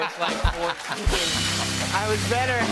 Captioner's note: cheers and applause